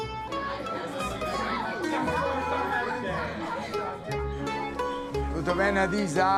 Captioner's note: restaurant patrons talking